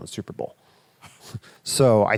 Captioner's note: chuckles